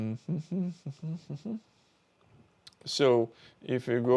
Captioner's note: humming